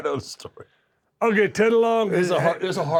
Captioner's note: laugh